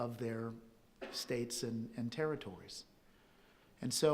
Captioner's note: audience member coughs